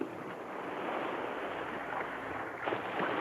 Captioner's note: waves crash